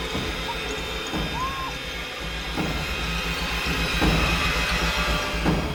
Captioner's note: muffles Barbara screaming